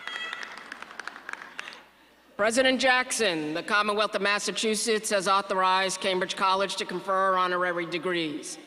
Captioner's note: applause